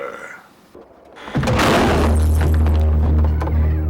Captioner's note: door slams shut